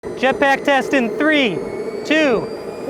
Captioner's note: jet engine roaring